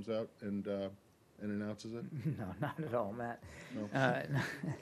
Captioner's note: laughter